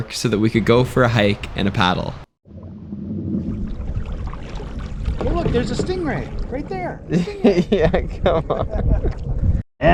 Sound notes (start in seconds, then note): 4.2 water splashing; 8.8 both laughing